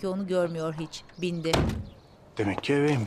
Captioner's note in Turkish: Kapı kapanma sesi